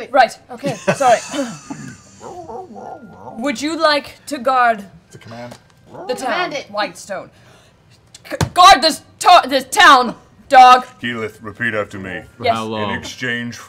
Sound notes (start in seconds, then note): 8.5 shouting